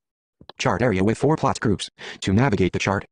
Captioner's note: voiceover